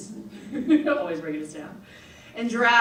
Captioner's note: laughs